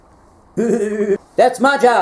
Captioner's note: neigh